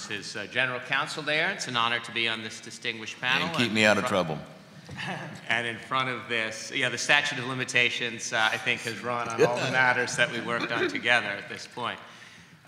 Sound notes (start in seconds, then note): 5.3 laughs; 9.2 laughter